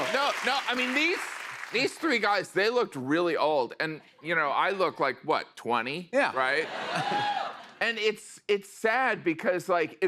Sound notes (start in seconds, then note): 6.6 laughter